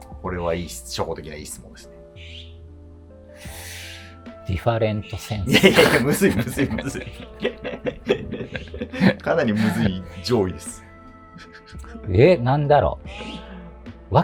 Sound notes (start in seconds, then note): 7.8 laughing